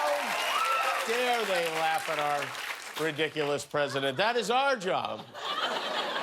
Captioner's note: cheers and applause